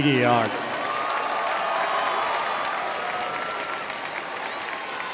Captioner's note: crowd applauds